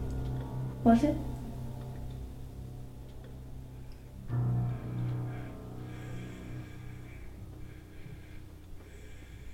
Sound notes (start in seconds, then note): 3.8 faint heartbeat; 4.3 labored breathing